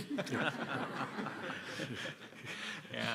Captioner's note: laughter